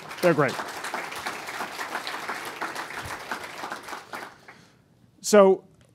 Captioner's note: applause